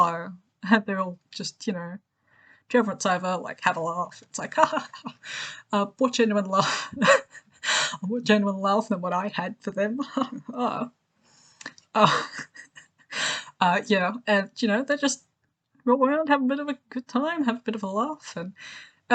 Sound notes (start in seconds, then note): 6.8 laughs; 10.2 mocking; 12.0 laughs